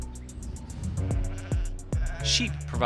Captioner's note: sheep bleating